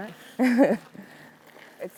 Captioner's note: laughs